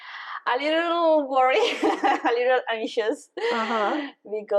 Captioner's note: laughing